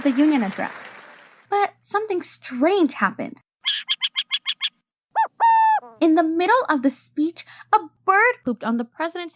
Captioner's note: bird sound